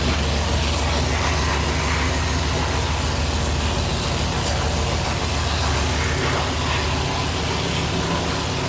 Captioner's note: engine running